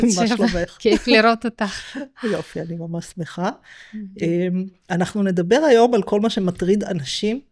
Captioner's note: laughter